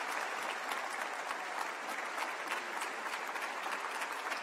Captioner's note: applause